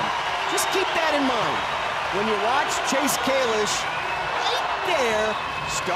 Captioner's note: audience whistling